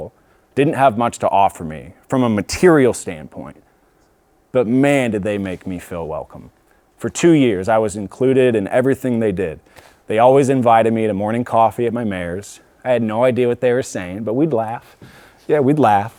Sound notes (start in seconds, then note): none